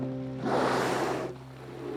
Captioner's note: whale calling; air hissing